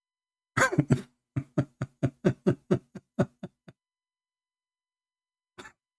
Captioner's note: Ketawa